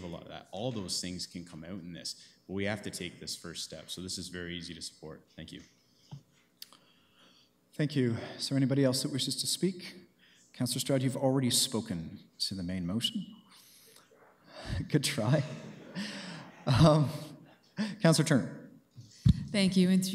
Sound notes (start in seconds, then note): 15.3 chuckles